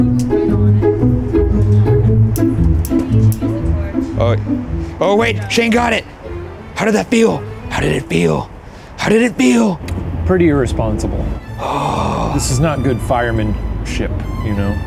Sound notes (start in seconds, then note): 0.1 whimsical music continues; 2.5 lighter flicks